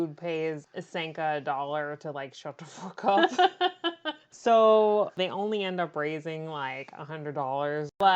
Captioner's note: laughs